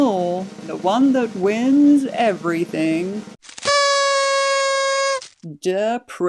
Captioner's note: drum Roll; pathetic Party Blower Toot